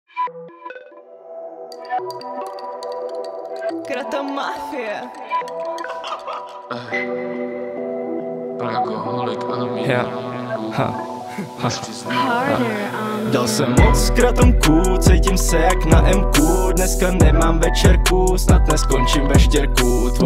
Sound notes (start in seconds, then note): 1.7 spoon stirring sound; 5.8 laughter